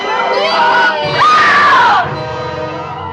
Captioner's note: screams